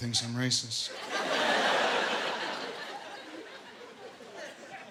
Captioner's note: laughter